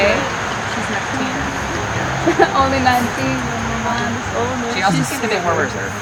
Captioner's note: singsongy